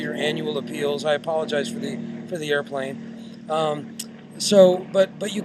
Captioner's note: airplane roars